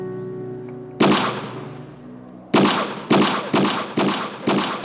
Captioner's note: gun shot